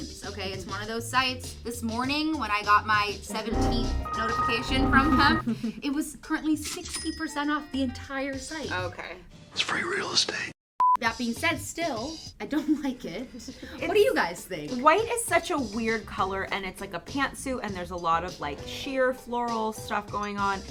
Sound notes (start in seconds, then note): 10.8 beep; 13.2 laughs